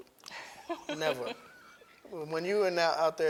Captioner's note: laughs